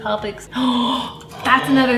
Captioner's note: gasps